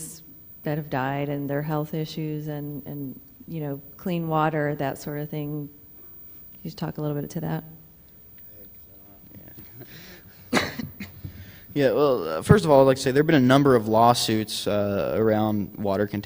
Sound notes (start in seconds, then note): 9.3 coughing